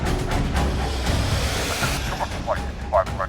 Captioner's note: entities whooshing